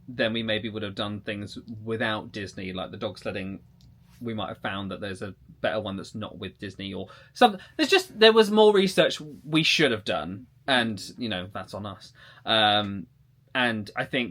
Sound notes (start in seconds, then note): none